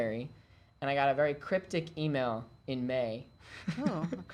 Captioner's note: laughing